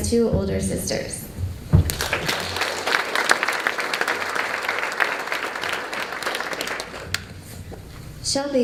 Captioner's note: applause